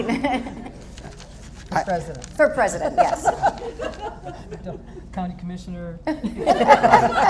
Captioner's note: laughter